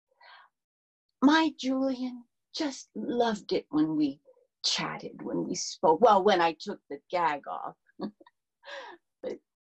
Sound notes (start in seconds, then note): 8.1 laughs